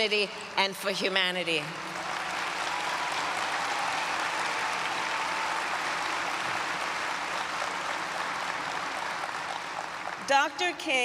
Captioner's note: applause